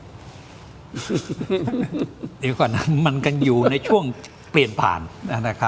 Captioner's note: laughs